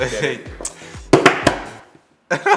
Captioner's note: slapping; laughing